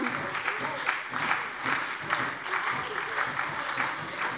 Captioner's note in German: Lebhafter Beifall bei der SPD, der LINKEN und der FDP